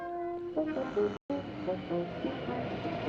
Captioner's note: groaning